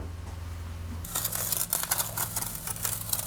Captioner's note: crackling, scratching